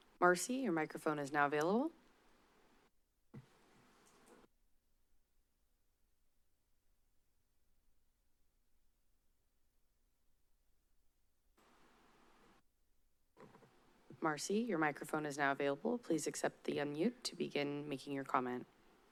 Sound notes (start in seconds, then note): 3.3 silence